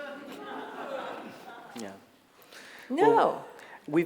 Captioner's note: scattered laughter